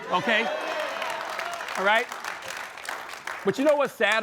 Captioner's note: applause